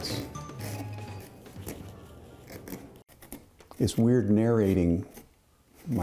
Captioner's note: tool scraping the pumpkin